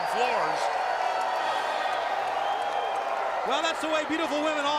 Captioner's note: crowd cheering